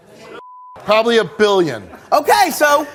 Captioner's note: beep